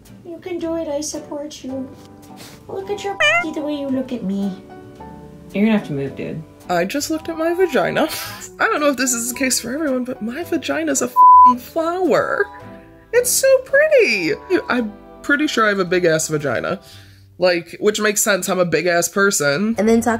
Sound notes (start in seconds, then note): 3.2 meow; 11.1 beep